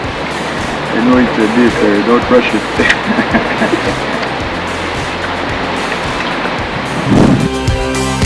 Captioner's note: laughing